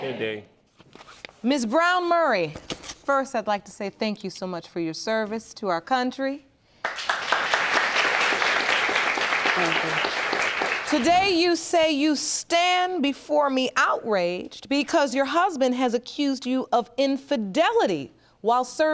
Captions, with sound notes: Ms. Brown-Murray. First, I'd like to say thank you so much for your service to our country. (AUDIENCE CLAPS) Thank you. Today, you say you stand before me outraged because your husband has accused you of infidelity while serving in Iraq.